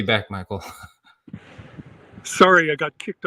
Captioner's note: laughs